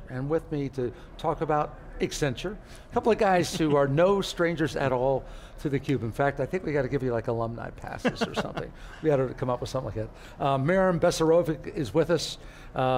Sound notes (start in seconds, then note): 8.0 laugh